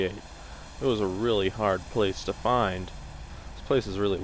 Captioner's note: sarcastically